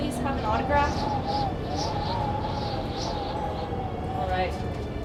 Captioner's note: wind whistling